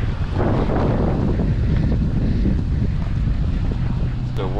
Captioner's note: wind blowing